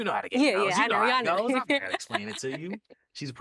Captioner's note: laughs